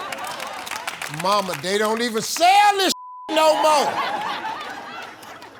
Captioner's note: beep; audience laughing